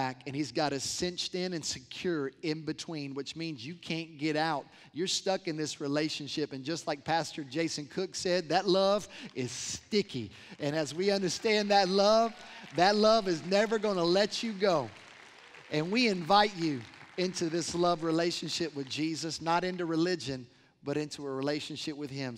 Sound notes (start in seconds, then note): 10.1 applause